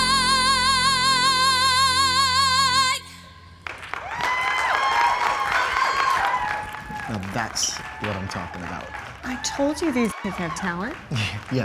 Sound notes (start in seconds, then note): 3.6 students applauding and cheering